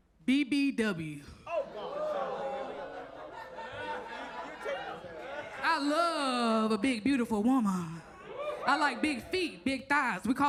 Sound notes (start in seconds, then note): 1.5 audience laughs